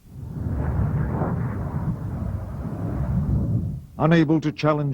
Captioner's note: jet engine roaring